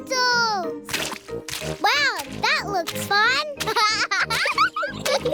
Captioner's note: laughs